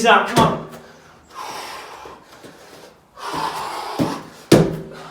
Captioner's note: exhales sharply